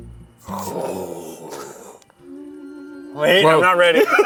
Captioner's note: both exclaiming; laughing